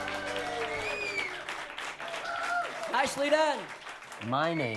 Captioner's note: applause